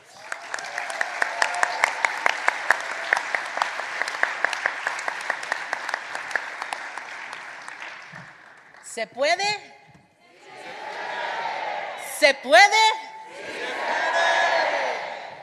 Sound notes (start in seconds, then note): 3.8 applause